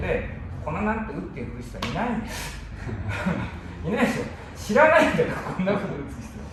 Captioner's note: laughter